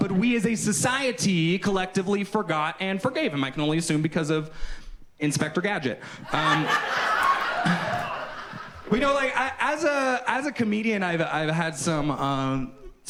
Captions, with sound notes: But we as a society collectively forgot and forgave him. I can only assume because of "Inspector Gadget". (audience laughs) But you know, like as a, as a comedian, I've had some,